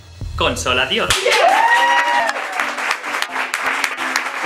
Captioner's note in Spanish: Vitoreos y aplauso